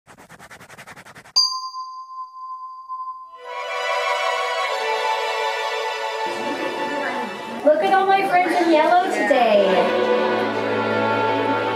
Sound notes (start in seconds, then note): 0.1 icon swishing; 1.4 light bulb dinging